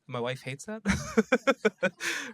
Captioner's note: laughs